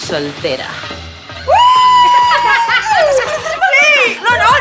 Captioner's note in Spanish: Nairobi grita